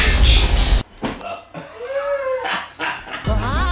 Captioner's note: wheeze